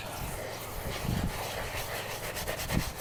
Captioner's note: scrubbing